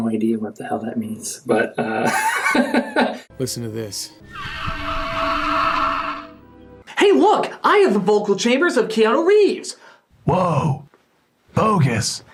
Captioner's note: velociraptor noise